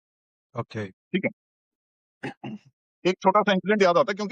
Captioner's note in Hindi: गला साफ़ करने की आवाज़